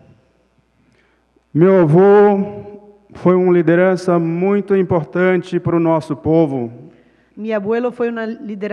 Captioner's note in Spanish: Ponente habla en portugués